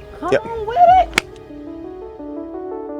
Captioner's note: hands slapping; bright music